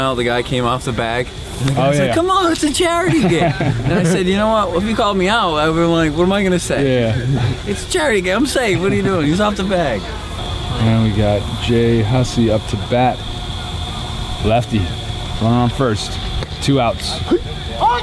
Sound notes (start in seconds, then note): 2.7 laughs